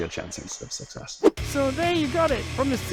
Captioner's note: graphics whooshes